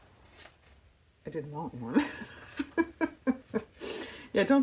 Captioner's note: laughs